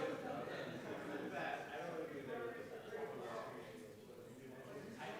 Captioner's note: chattering continues